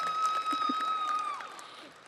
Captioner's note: audience cheers